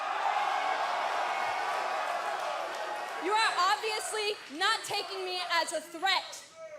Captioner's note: cheers & applause